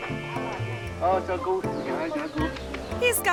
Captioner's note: tourist faintly speaking